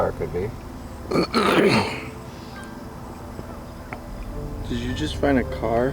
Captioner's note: clears throat